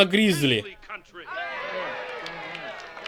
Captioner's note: crowd cheering